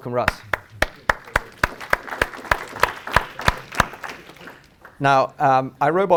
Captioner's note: applause